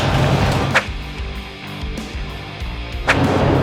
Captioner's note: whish